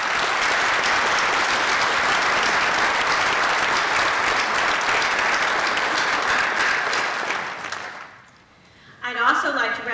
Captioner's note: applause